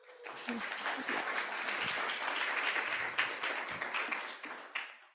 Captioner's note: audience applauding